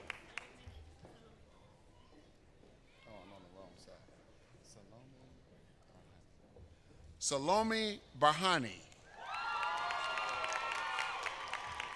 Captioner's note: applause